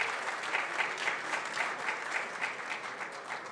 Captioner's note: applause